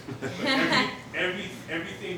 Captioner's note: laughing